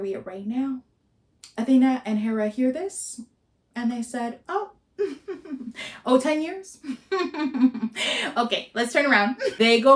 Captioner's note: giggles